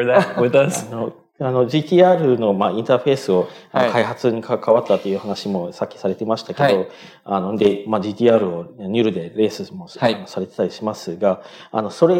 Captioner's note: speaking japanese